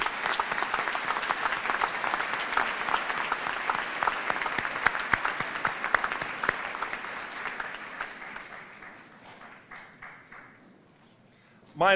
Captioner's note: cheers and applause